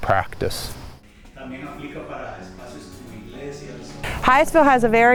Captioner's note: speaking a foreign language